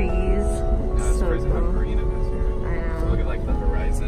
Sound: mumbling

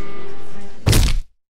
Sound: crunch

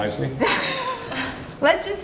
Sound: laughs

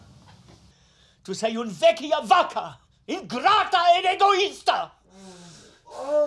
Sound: speaks foreign language

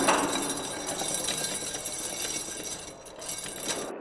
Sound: thudding; chain clinking

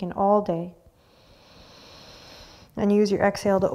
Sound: inhaling

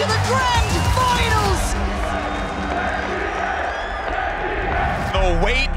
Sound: cheers

